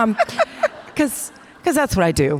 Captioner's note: participants laughing